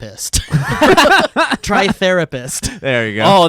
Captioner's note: laughing